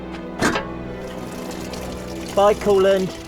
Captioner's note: loud metal clang; liquid drains into bucket